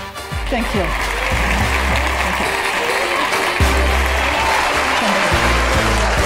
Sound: audience applauding

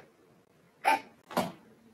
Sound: gasps

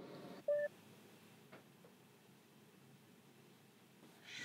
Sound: phone beeps

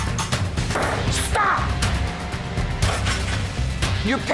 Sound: hits table

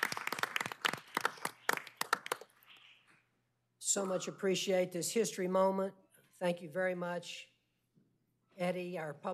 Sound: applause

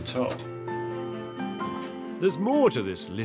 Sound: elevator dings

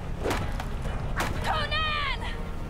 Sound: chopping wood

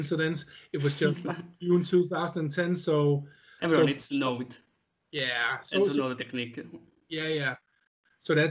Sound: laughing

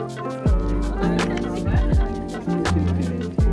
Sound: background chatter

